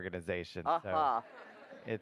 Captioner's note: laughter